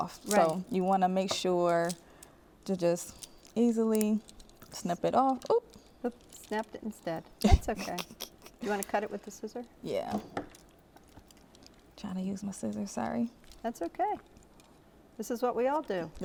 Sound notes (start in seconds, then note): 7.4 chuckles